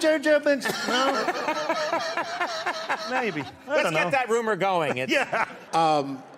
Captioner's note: laughter